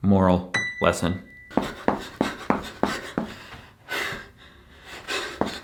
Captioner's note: breathing heavily